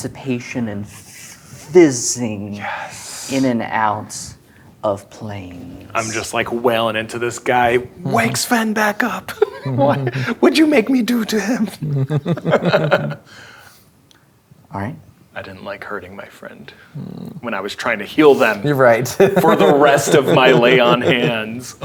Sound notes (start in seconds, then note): 11.9 players laughing; 19.0 laughs